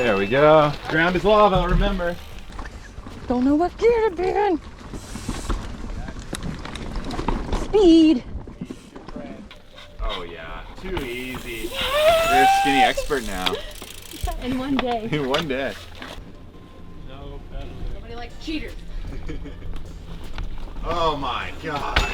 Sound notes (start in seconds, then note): 6.4 wheels whooshing; 11.8 celebrating; 11.9 wheels whizzing; 18.2 mumbles; 21.9 wheels thudding